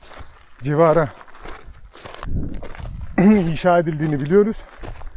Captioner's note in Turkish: boğazını temizler